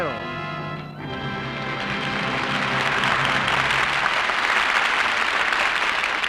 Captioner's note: applause